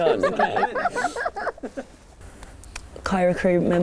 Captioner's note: laughs